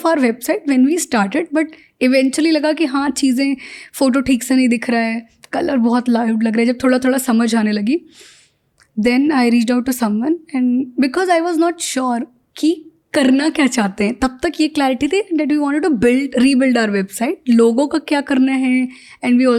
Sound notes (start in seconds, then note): 0.0 speaks in Hindi; 8.2 speaks in Hindi; 14.3 speaks in Hindi; 18.5 speaks in Hindi